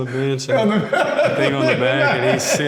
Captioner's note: laughs loudly